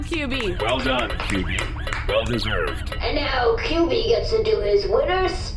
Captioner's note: everyone applauds